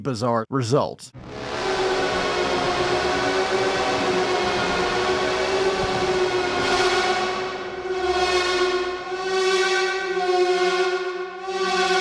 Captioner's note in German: Soundeffekte